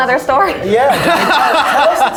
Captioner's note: all laughing